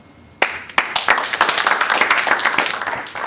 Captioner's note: applause